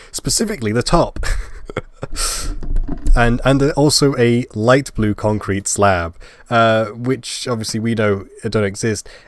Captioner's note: laugh